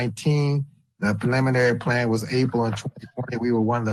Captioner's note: distorted audio